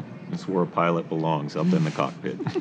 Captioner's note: laughter